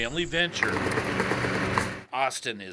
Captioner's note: machine whirs